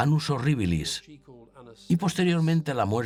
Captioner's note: speaking in foreign language